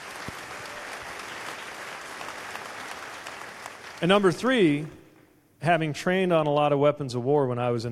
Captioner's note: applause